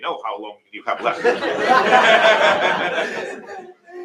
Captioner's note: laughter